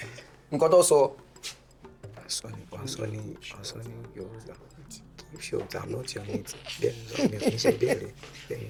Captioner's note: whispering